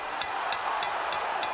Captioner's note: bell dings